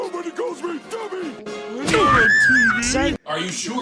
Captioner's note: Bluey Screams